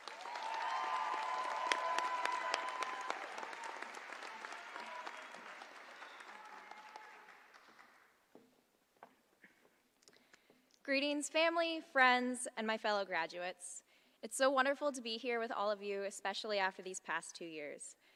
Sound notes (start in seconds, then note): 0.0 applause